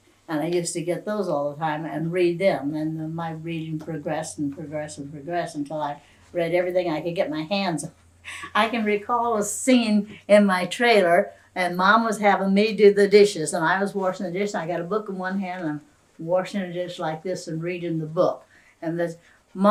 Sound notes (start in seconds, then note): 8.3 laughs